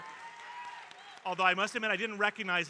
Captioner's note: audience cheering